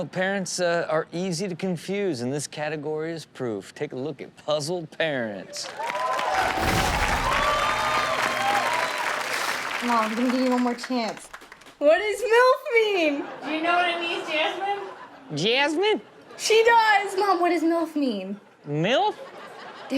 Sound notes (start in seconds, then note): 5.5 audience claps and cheers